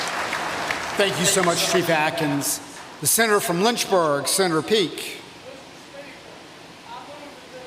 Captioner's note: applause